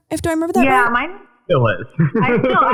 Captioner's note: laughing